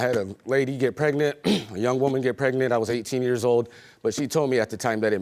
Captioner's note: clears throat